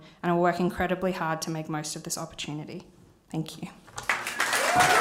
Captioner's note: applause